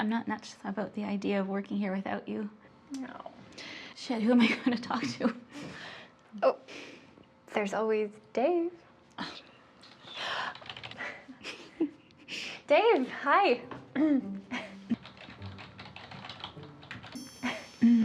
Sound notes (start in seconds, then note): 10.6 keyboard keys clacking; 14.6 keyboard keys clacking; 17.0 gentle music